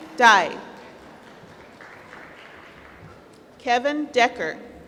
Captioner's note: applause